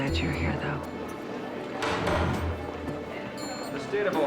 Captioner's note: gavel bangs